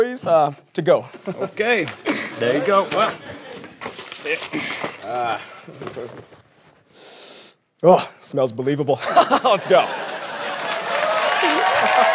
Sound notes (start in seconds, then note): 6.9 inhales